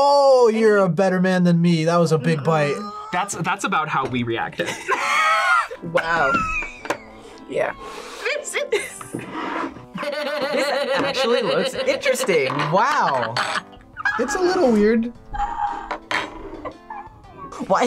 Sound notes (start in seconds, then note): 4.5 both laugh; 7.9 laughs; 16.4 laughs